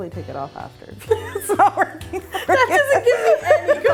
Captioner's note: laughing